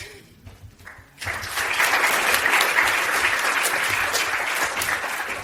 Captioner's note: audience applauds